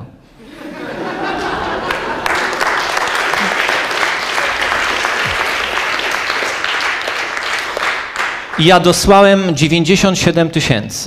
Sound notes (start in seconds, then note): 0.4 laugh; 1.8 applause